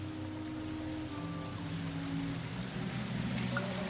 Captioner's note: water running